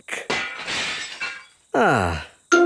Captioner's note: glass shatters